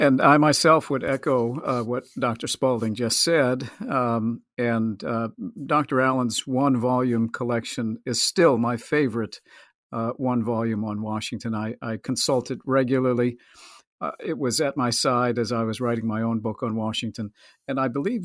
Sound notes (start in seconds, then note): 3.8 laughs